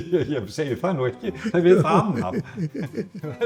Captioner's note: laughs